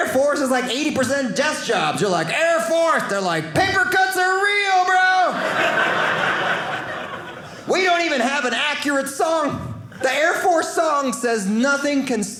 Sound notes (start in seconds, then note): 5.3 audience laughing